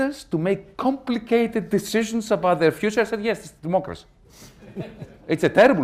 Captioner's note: laughter